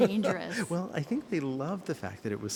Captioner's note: laughs